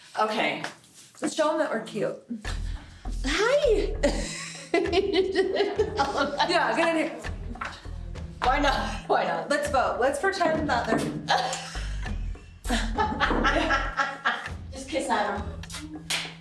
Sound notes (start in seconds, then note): 3.4 laughing; 11.2 laughing; 16.0 clapping